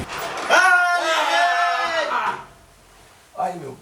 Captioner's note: yells